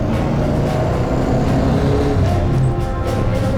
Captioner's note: engine revs